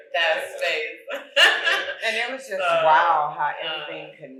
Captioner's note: laughing